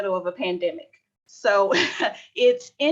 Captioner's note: laughter